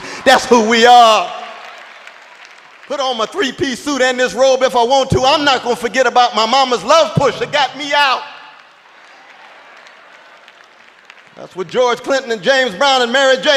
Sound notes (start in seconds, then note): 9.3 applause